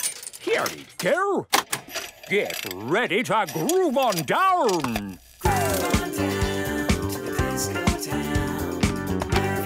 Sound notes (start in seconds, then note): 1.6 clicks, whirring; 5.4 disco music plays